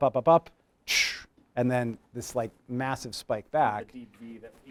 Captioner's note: whooshes